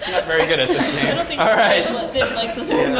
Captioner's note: laugh